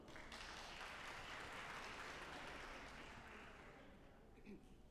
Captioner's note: audience applauding